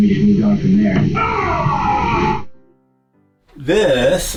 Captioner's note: umpire yells strike